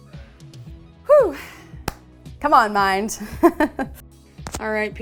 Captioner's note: laughing